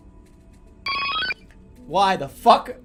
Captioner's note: loud beep